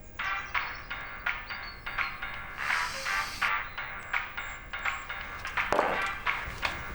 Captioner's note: phone rings with pop music ringtone